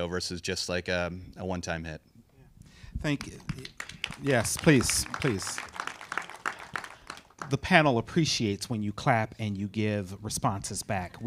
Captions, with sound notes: versus just like a one-time hit. - Thank you. Yes, please, please. (audience applauding) The panel appreciates when you clap and you give responses back,